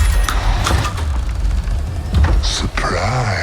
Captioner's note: door creaking